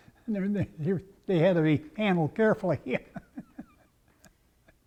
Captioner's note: laugh